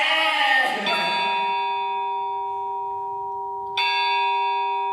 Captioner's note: A clock strikes